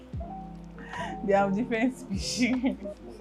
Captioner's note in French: rire